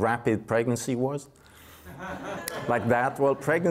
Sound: audience laughs

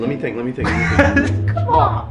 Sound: laughter

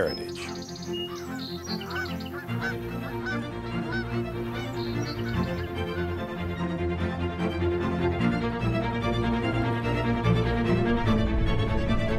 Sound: nature sounds

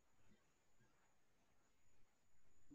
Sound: none

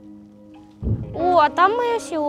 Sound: explosion sound

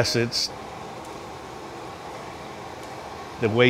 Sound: fire roaring

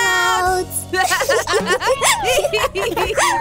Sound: laughs

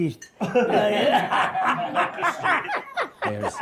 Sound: laughter

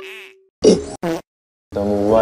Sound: choking

